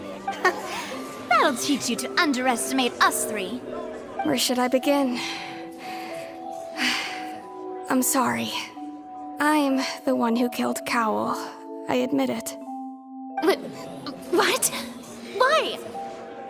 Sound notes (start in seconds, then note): 6.7 sigh